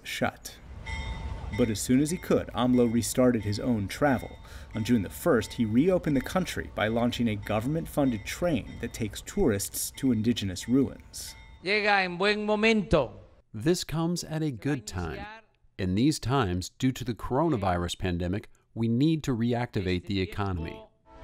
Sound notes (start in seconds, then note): 12.9 through translator